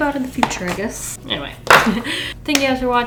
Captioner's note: giggles